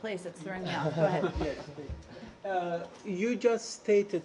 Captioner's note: laughter